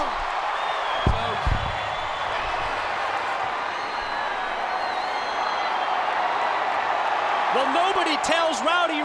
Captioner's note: crowd cheering